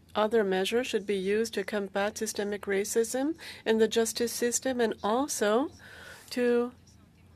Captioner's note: speaking French